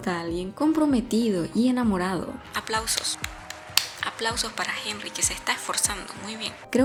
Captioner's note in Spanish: aplausos, aplausos para Heinrey que se está esforzando